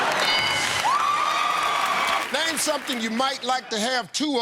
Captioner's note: cheers and applause